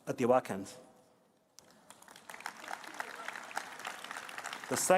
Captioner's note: applause